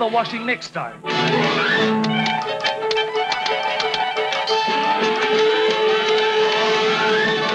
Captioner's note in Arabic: موسيقى أوركسترالية حماسية; نقرات على الآلة الكاتبة